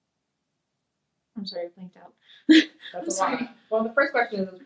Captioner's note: laughs